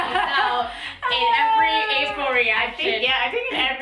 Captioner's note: laughs